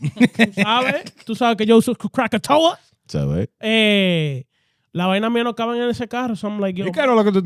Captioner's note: laughing; speaking In Foreign Language